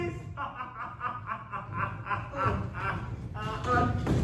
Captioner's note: laughing